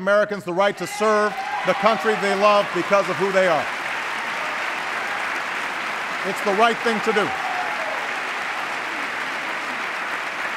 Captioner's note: applause